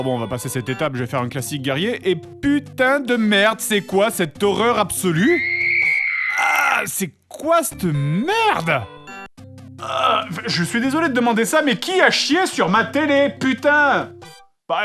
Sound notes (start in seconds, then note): 5.2 shrill scream